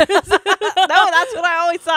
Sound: both laugh

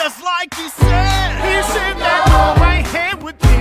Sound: crowd

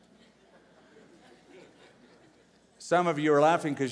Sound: laughter

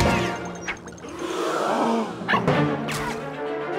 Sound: gasping

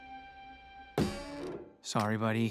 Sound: dumpster creaking

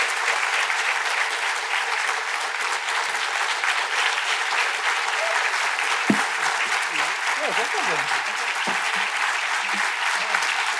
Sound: applause; foreign language

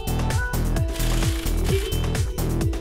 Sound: air-powered rattle gun

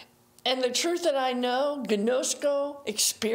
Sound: speaking in foreign language

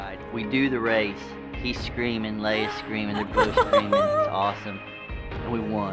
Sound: laughing

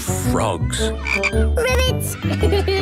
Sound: croaking; giggling

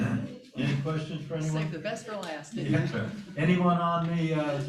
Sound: laughter

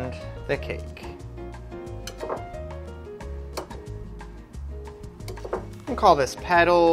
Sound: upbeat theme music; scrapping

